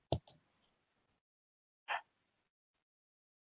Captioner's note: clicking